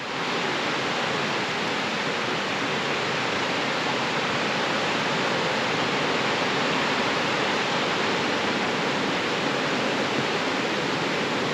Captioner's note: rushing water